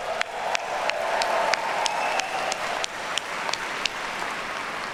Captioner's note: audience cheering; audience applauding